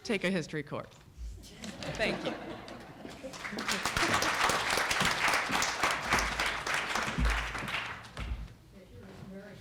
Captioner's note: applause